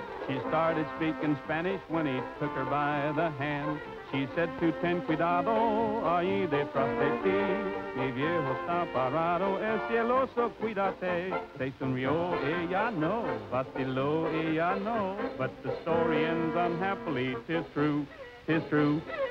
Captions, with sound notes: She started speaking Spanish when he took her by the hand. She said [speaking spanish]. But the story ends unhappily. Tis true. Tis true.